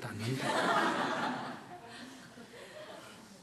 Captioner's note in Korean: 청중 웃음